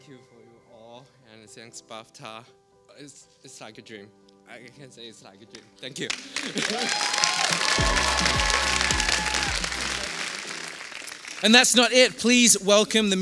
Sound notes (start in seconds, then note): 6.0 applause